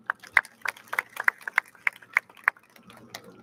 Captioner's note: audience claps